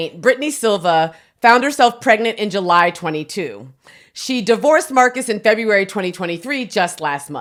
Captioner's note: none